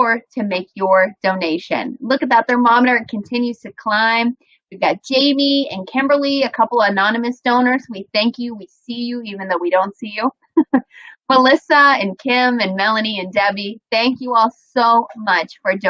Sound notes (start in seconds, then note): 10.9 laughs